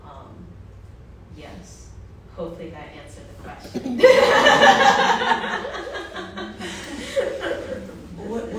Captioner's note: laughter